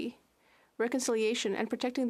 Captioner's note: speaking French